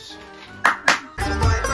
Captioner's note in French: Man claps twice